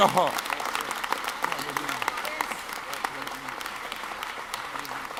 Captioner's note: audience claps